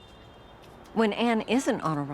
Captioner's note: city sounds